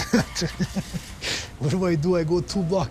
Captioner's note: laughs